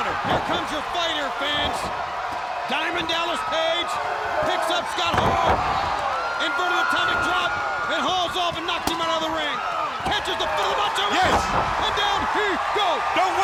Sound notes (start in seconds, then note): 1.2 body thudding; 1.9 blows thudding; 3.6 wrestlers grunting; 5.0 blows thudding; 11.2 body thudding; 12.5 crowd cheering